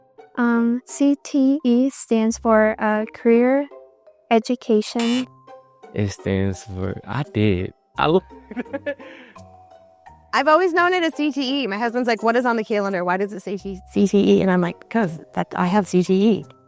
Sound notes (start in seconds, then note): 4.9 incorrect Buzzer Noise; 8.0 laughs